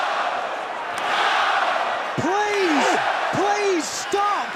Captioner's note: crowd cheering